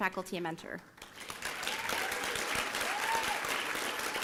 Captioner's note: applause